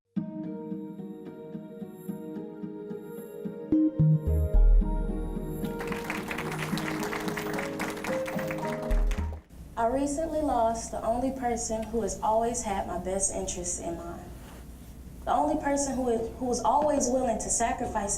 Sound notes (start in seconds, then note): 0.1 relaxing instrumental music; 5.6 applause